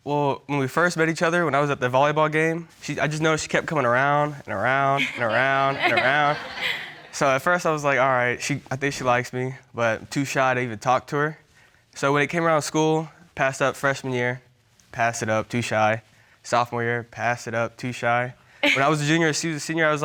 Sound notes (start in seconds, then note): 5.0 all chuckling